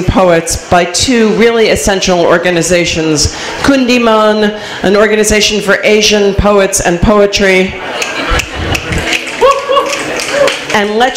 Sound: snaps

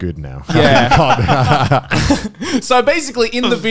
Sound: men laughing

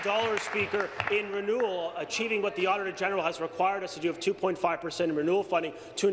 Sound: applause

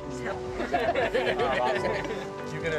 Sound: laughter

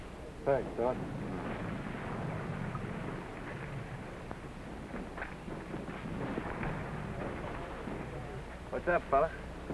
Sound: explosions continue in background

